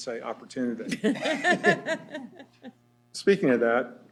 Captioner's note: laughter